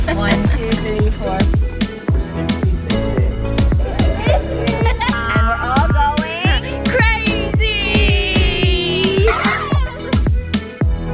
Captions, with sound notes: One, two, three, four. (children laughing) - And we're all going... - Crazy!